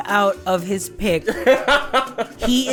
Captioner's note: guffaws